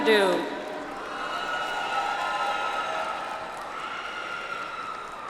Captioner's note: audience applauds